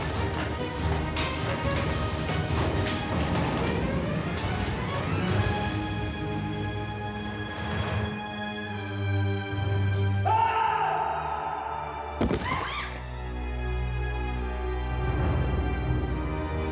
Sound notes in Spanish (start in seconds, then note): 12.5 Estruendo al caer